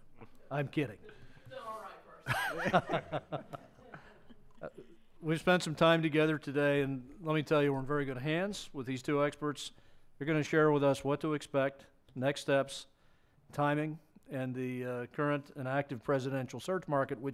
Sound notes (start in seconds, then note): 2.2 members laugh